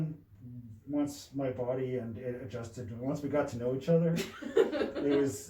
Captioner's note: laughs